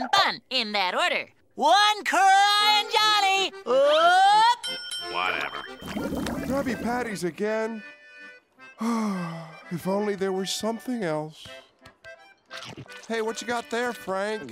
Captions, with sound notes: In that order. One Crying Johnny, up! Whatever. Krabby Patty's again? [sighing] If only there were something else. Hey, what you got there, Frank?